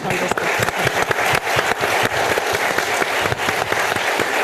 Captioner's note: audience applauding